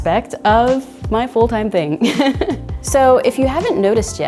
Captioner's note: laughing